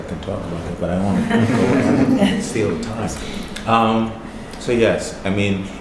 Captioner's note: laughing